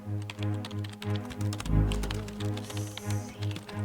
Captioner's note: keyboard clacks